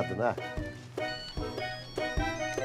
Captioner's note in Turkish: Telefon zili sesi